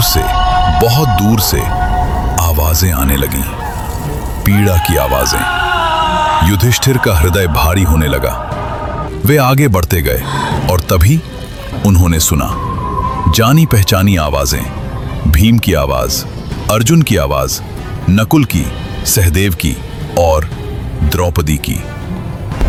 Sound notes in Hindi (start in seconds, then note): 4.9 चीखने की आवाज़